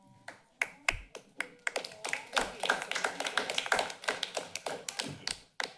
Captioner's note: applause